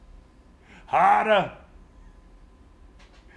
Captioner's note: laugh